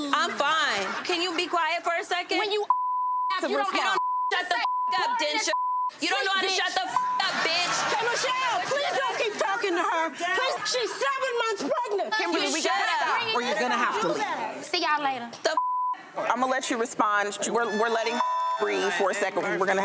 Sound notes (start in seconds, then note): 2.6 beep; 15.5 beep; 18.1 beep